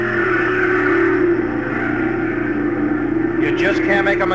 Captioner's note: engines roaring